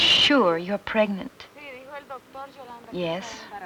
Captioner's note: speaking Spanish